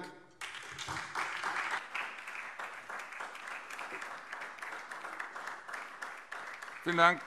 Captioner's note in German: Beifall SPD